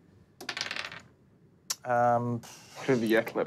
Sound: dice clatters

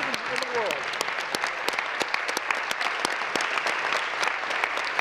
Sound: applause

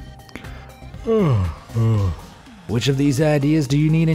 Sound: yawning

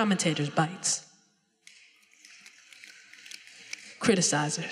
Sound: audience snapping fingers

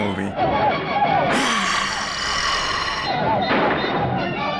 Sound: sighs

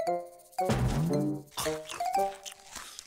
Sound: loud munching

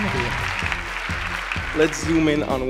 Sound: applause

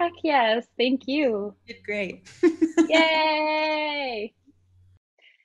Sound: laughs

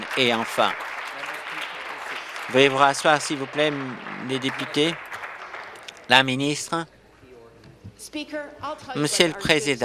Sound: applause

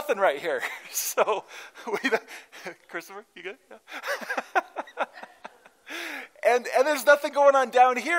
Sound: laughter

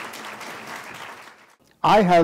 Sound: applause

